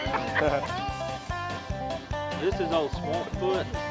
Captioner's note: laughs